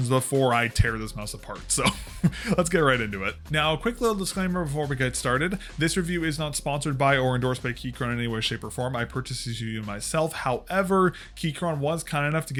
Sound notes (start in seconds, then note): 1.8 chuckle